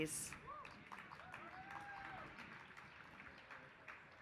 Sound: applause

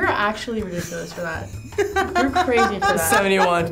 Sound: laughs

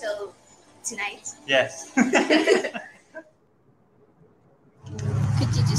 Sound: laughs

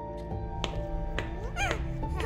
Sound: footsteps; baby's laugh

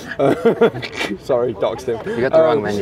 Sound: laughs

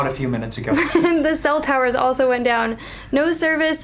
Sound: laughs

